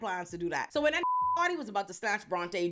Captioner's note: beep